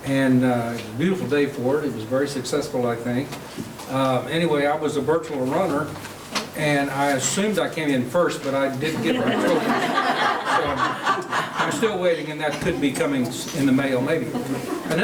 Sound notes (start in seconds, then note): 8.9 laughing